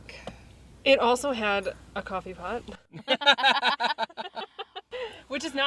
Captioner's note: everyone laughs